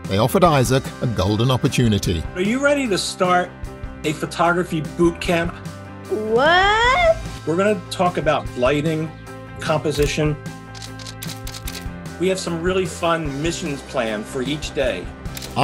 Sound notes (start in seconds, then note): 10.7 camera clicks